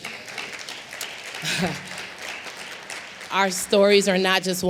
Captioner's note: applause